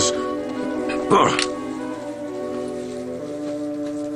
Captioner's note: grunts